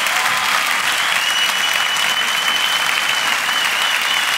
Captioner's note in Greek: θερμό χειροκρότημα; σφυρίγματα